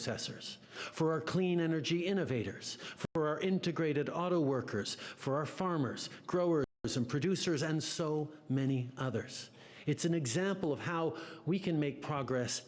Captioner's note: speaking French